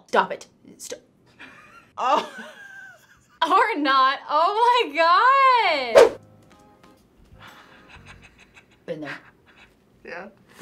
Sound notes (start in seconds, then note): 2.4 laughs; 7.4 chuckles